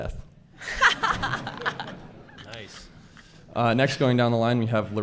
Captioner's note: laughs